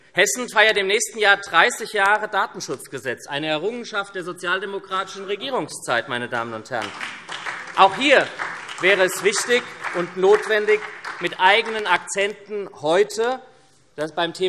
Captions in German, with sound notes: Hessen feiert im nächsten Jahr 30 Jahre Datenschutzgesetz - eine Errungenschaft der sozialdemokratischen Regierungszeit. [Beifall SPD] Es wäre wichtig und notwendig, dass Sie heute beim Thema Datenschutz